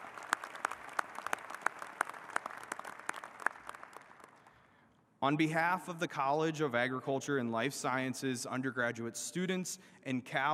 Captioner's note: applause